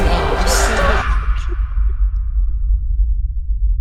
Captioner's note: scream